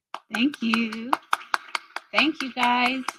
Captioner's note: audience member applauding